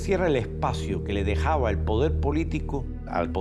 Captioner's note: speaking Spanish